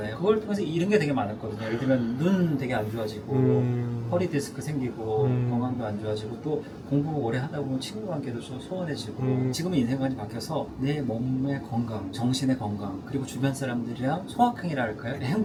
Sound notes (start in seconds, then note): none